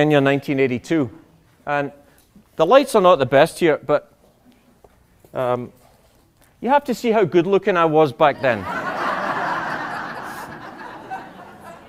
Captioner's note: laughter